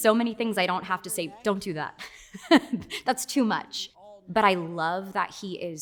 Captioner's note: laughs